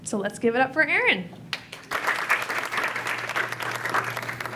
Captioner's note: applause